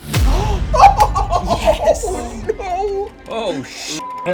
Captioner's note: laughing